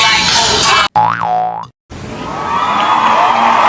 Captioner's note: cheering; more cheering